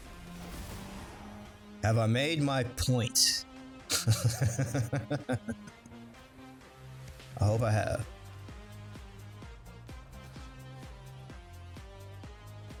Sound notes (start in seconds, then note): 3.9 laughter